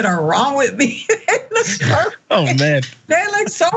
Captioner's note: laugh